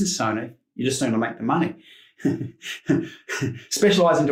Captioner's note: laughs